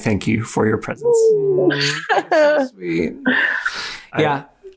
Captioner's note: exclaims